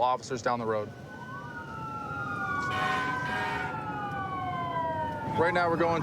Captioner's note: emt sirens blaring